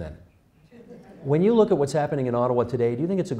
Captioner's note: laughter